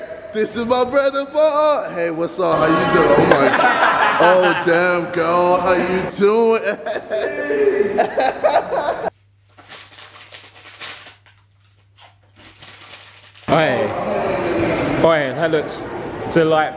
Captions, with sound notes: This is my brother, boy. Hey what's up, how you doing? - Hi. - Oh my. Oh damn girl, how you doing. (laughing) (paper crumpling) - Hey, hey, that looks delightful.